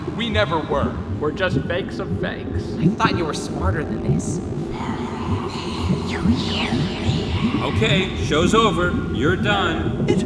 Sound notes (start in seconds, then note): 4.6 mocking voice